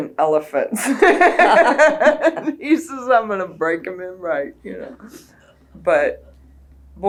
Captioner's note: laughter